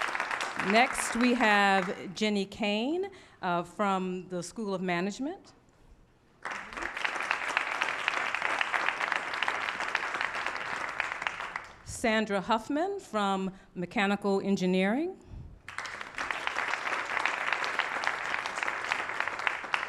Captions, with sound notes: Next we have Jenny Cang from the School of Management. [APPLAUSE] Sandra Huffman from Mechanical Engineering. [APPLAUSE]